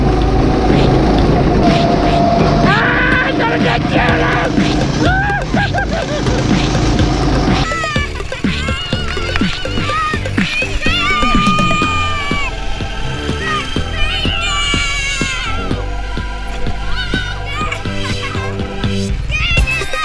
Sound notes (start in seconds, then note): 0.3 motors roaring; 4.9 shouting; 7.0 motors roaring; 7.9 laughing and shouting